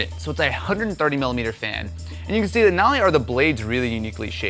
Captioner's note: none